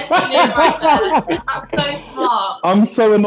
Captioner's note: laughing